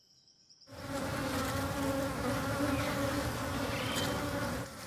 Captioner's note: buzzing